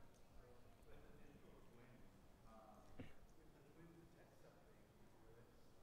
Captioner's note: audience Member 2 speaking softly